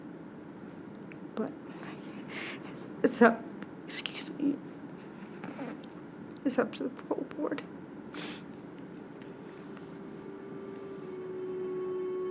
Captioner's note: weeping